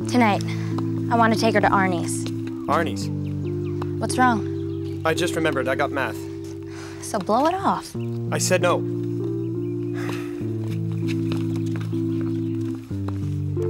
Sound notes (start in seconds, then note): 9.9 Sebastien sighs